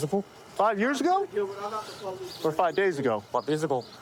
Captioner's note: none